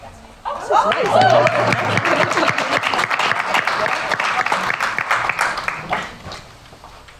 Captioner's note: applause